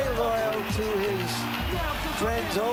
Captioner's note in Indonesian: Tepuk Tangan